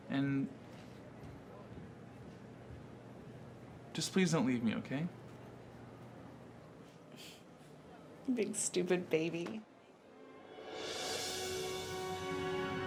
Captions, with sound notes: And just please don't leave me, okay? - (chuckles) You big stupid baby. (dramatic music)